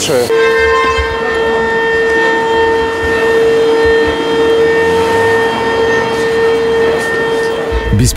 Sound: siren; troubling music

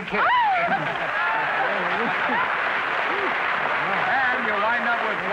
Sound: hearty applause

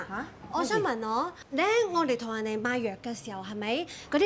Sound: in Cantonese

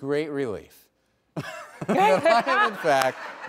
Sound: laughter

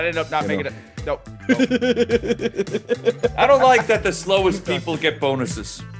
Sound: laugh

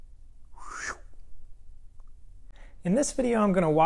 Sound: swooshing whistle

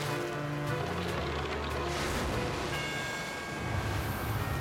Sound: splash; dramatic music plays

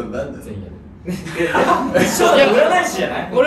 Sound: everyone laughs

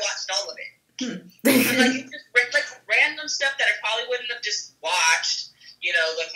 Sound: laughs

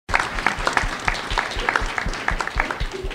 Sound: applause

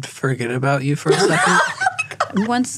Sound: laughter

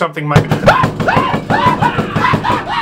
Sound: knock knock; hat guy screams in terror

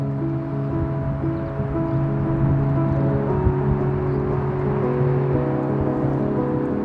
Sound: gentle music; gentle music continues; traffic droning; birds chirping

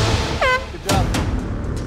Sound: air horn blaring

